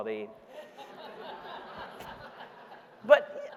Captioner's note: audience laughing